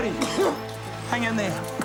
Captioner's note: Andy coughs